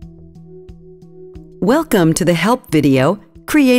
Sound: voiceover

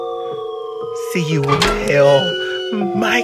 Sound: door Ajars

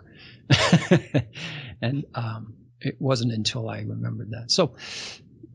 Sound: laughs

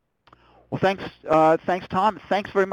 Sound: voiceover

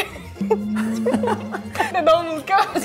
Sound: laughing

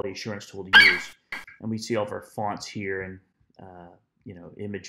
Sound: FlightCheck eagle screeches

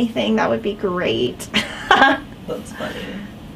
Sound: both laughing

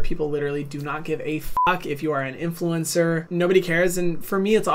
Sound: beep

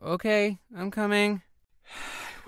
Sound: yawns

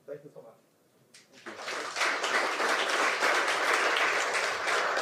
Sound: audience applauding

